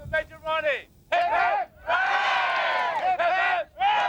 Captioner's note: crowd